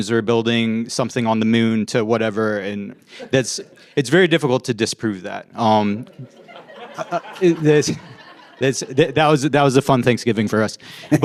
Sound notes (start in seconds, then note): 6.0 audience laughs